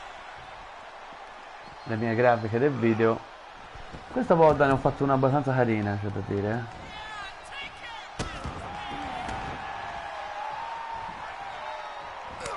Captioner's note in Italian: Applauso